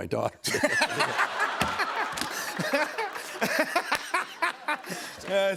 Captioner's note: laughter